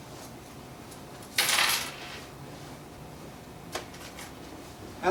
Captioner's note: coins clanking